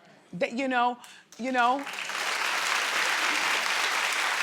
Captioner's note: crowd claps